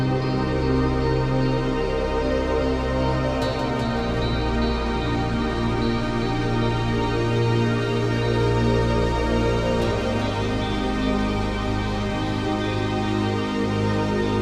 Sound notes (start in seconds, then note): none